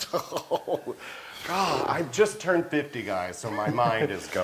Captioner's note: laugh